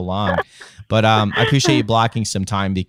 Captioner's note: laughter